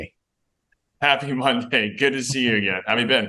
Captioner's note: chuckles